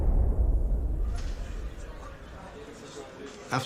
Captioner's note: chatter